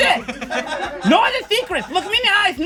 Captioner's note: and crew laugh